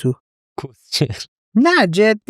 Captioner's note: laughs